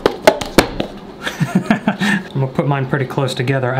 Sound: laughs

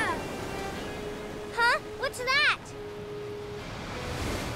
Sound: none

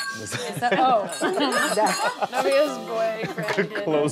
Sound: laugh

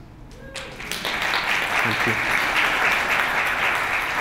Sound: applause

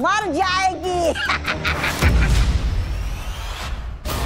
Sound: giggles

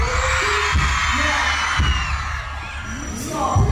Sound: crowd cheers

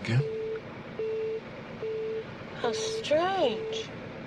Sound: mysterious beeping

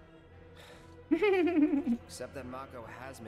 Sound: laughs

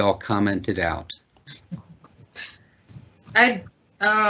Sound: chuckling

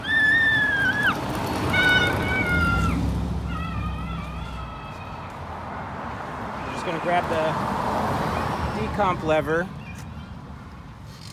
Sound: inarticulate squeals of childhood

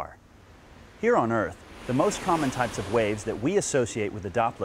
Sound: waves crashing

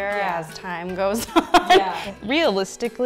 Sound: laughing

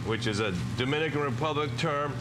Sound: foreign language

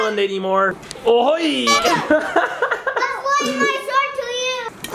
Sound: laughing

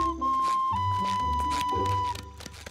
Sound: whistling

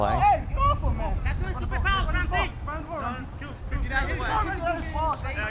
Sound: players talking and yelling

